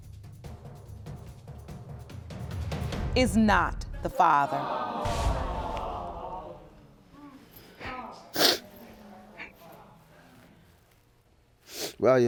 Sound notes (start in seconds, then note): 7.4 sniffling